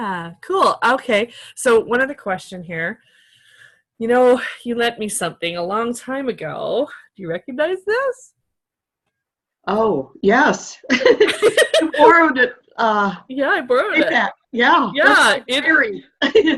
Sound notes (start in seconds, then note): 10.9 laughter